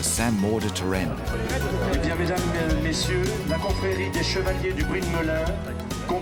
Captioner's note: speaks french